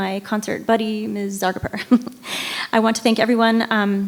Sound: giggles

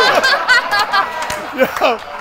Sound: laughter

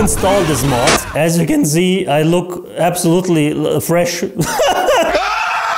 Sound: laughs

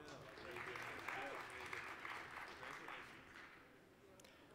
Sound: applause

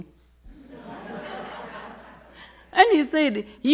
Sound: audience laughing

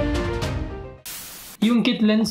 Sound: static sound

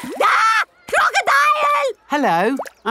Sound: screams

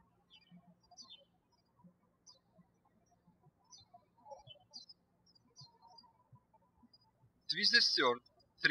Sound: birds chirping

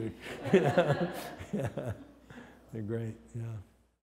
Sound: laughs

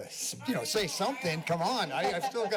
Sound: background chatter

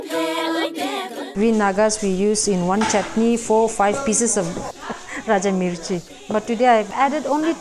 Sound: laughs

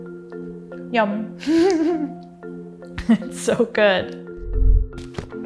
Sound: giggles

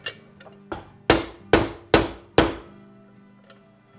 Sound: hammer pounding

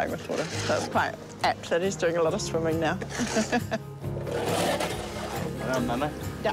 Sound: chuckles

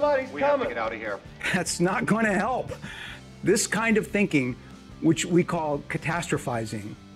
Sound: laughing

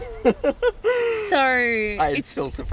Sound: laughing

